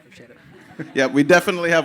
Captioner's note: crowd laughing